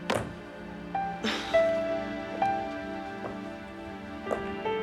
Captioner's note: Nora chuckles